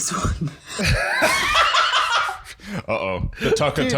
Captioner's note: hyena cackling